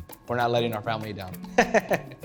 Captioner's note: laughs